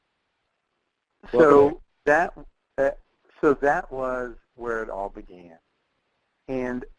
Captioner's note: voiceover